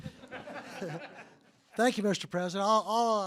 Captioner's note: laughter